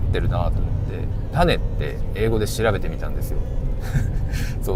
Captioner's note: laughs